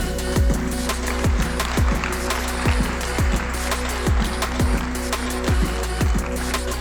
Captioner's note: applause